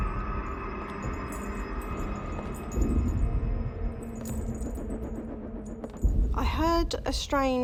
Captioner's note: suspenseful; jingling